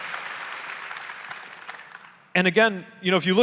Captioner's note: audience applauding